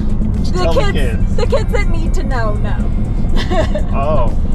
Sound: laughs

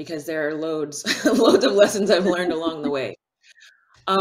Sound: chuckles

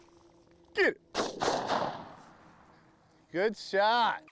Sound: gun fires

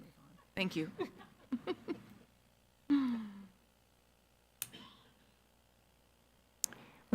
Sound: laughs

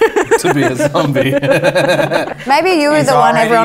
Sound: laughter

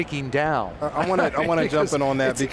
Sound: laughter

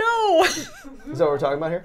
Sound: laughs

